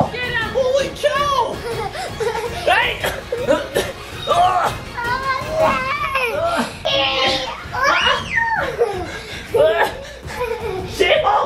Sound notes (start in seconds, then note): 2.1 grunts; 7.8 screams